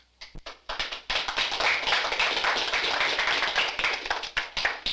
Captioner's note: audience clapping